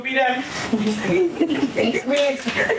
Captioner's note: laughter